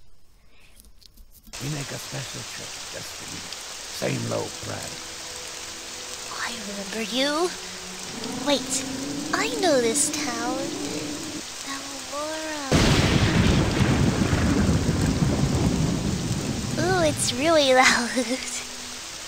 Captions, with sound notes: Oh I remember you. Wait I know this town. Balmora... *lightning* Ooh it's really loud.